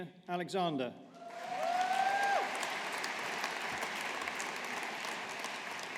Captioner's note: audience applauding